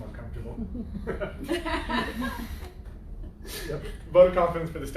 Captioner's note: laughter